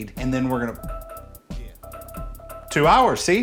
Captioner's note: timer dings